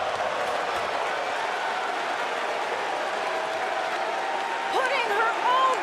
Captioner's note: crowd cheering